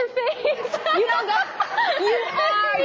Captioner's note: crowd laughing